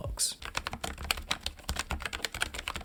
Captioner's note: keyboard clicking